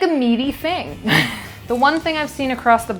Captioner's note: laughing